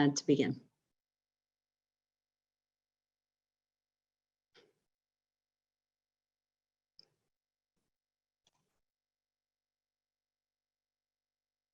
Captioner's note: silence